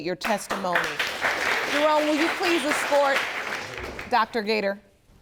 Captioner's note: audience applauds